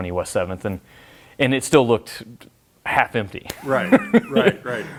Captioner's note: laughs